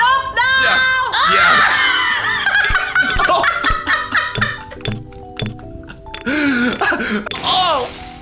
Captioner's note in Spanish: Risas intensefies